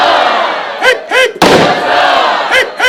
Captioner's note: pistol fires